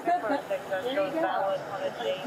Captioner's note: radio chatter